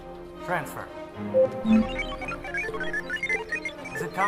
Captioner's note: computer Beeping